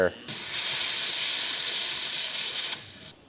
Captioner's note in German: wasserstrahlgeräusche